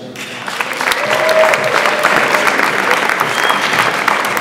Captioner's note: audience applauds